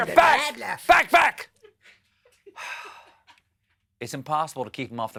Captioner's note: laughter